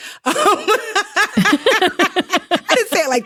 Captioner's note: both laughing